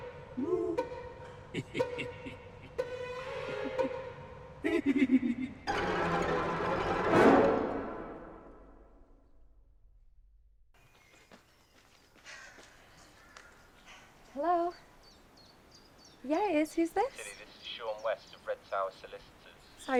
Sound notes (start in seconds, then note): 1.5 leprechaun giggling; 5.6 sinister music; 10.7 birds chirping